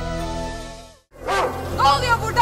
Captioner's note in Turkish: köpek havlama sesi̇